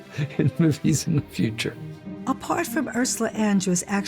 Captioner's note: chuckles